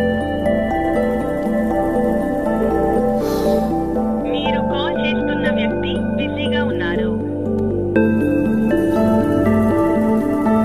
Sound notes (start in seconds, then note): 2.6 phone line ringing; 4.3 dialer busy tone